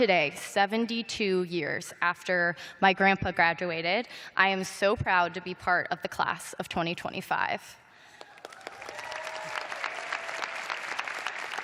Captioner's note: cheers and applause